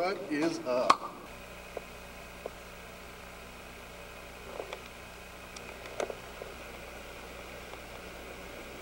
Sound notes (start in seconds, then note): 1.0 clap; 2.3 camera zoom sounds